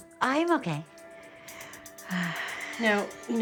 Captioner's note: sighs